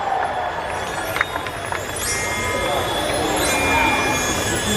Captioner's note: magical twinkling